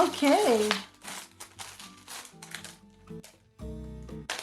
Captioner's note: bag rustling